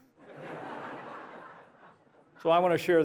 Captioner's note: laughter